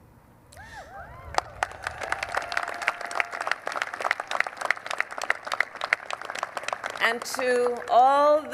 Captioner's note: applause